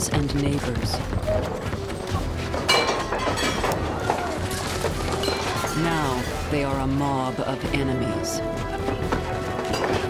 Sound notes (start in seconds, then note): 2.4 sounds of things break